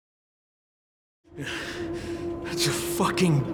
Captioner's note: groan